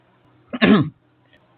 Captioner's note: clears throat in a scout way of doing that